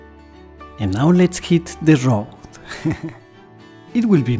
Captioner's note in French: rires